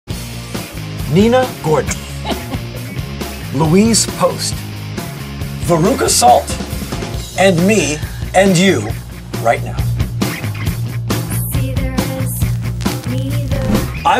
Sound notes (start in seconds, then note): 2.0 laughs; 11.0 rock music